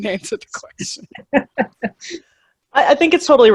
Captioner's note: laughing